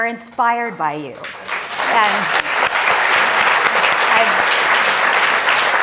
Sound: audience applauding

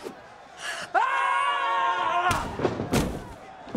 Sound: screaming

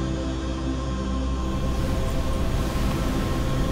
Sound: wind blowing

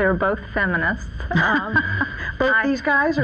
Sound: laughs

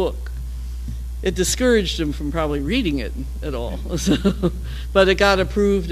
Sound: laugh

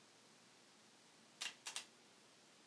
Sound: shutter Click

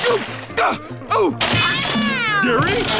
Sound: grunting; meowing

